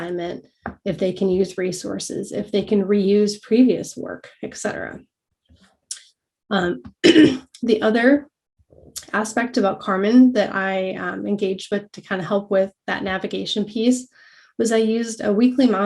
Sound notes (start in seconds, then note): 7.0 cough